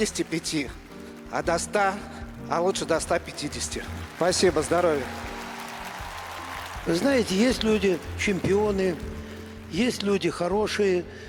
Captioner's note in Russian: ликование